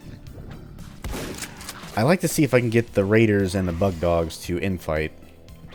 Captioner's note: shotgun blast